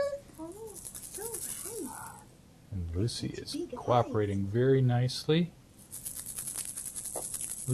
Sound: crying

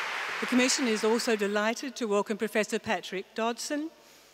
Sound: applause

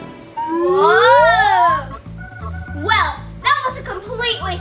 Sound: assistant chuckling; assistant exclaiming; assistant whizzing

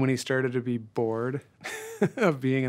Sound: chuckles

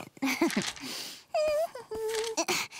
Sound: laughing; humming

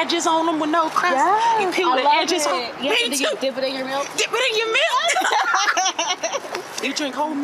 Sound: laugh

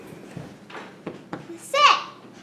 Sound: patting

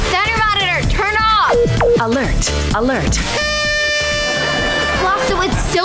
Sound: party horn blowing

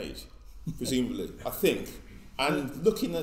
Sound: laughs

